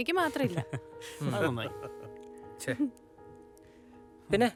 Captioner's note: all laugh